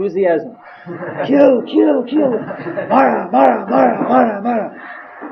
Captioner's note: all laughing